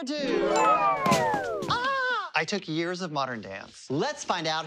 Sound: shrieking

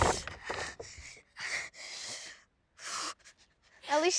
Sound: heavy breathing

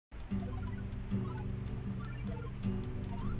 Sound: video game sounds

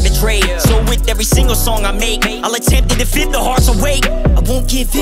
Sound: woo

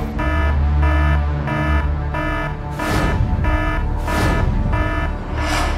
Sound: siren wailing

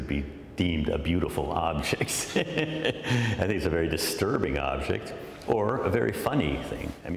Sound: laughter

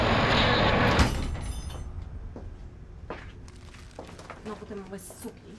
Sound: door opens; footsteps approaching; alicja mutters in polish

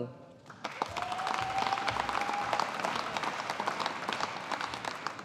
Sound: audience applauding

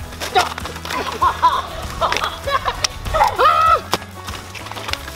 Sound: screaming and laughing

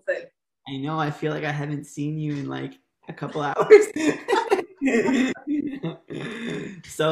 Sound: laughter

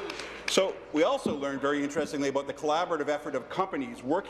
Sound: applause

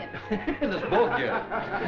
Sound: giggling

